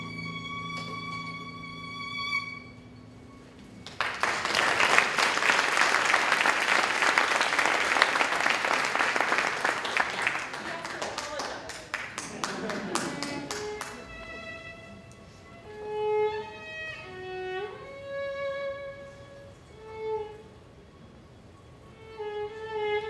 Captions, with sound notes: [ applause ] - He has to apologize. [ violin and harp ]